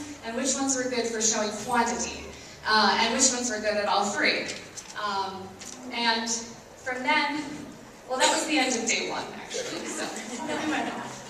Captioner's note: laughs